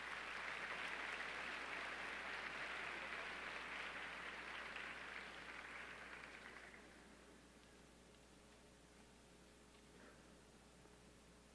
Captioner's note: applause